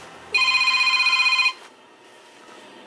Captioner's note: telephone ringing